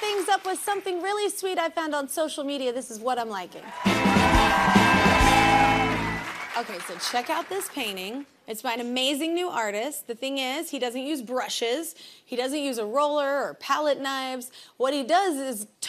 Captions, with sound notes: WRAP THINGS UP WITH SOMETHING REALLY SWEET I FOUND ON SOCIAL MEDIA, THIS IS WHAT I'M LIKING. [CHEERS AND APPLAUSE] OKAY, SO CHECK OUT THIS PAINTING. IT'S MY AN AMAZING ARTIST. THE THING IS, HE DOESN'T USE BRUSHES, HE DOESN'T USE A ROLLER